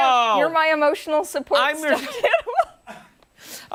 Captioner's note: laughter